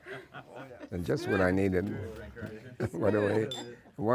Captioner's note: laughter